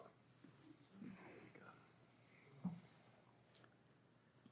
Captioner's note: audience murmuring